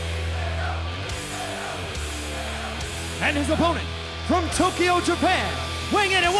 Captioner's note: fans chanting